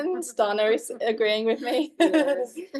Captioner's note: chuckles